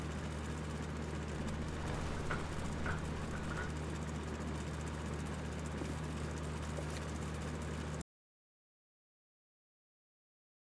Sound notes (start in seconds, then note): 1.3 bed creaking